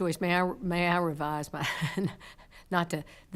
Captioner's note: chuckles